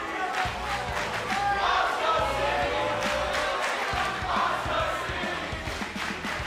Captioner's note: fans chanting